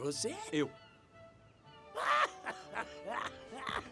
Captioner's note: laughing